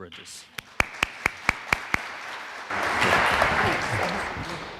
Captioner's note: audience clapping